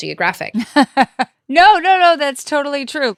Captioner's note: presenter laughing